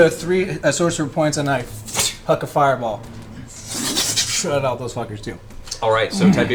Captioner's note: fwoosh